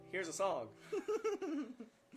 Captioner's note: laughter